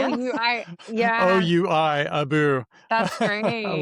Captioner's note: laughs